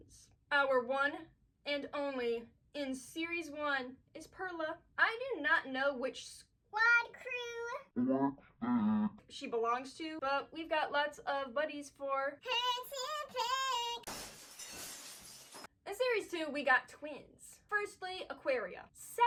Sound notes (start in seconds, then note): 14.0 glass breaks